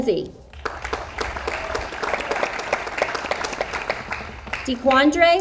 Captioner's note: audience applauds